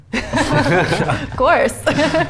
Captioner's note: all laughing; laughs